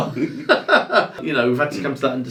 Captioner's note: laughing